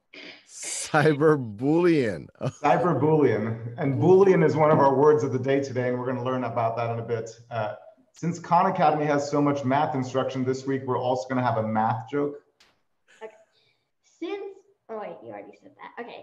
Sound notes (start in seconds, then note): 0.6 laughs